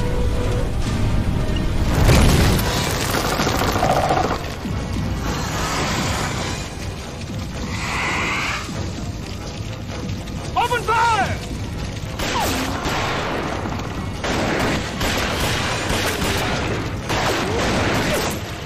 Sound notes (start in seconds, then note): 1.5 centipede growls; 1.5 loud blast; 7.5 centipede hissing; 12.0 gunshots